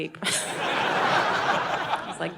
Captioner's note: audience laughing